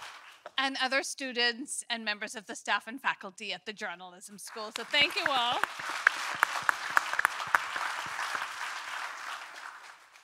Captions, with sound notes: And other students and members of the staff and faculty at the Journalism School. So thank you all. (audience applauding)